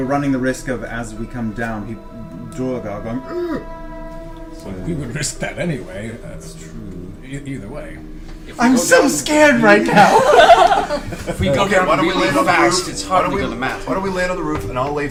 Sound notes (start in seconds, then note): 2.1 groans; 9.8 all laugh